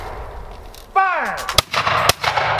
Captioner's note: gunfire continues